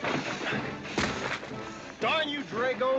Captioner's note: suitcase hitting ground; loud bump